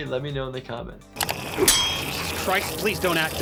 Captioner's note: Toothfairy gnarls